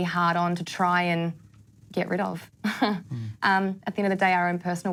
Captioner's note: laughs